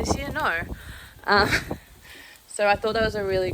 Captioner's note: laughs